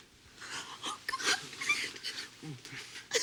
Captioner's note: crying